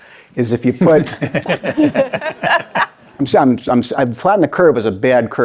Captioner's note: participants laughing